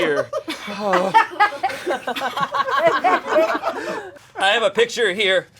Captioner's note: audience laughing